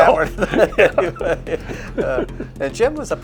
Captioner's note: laughs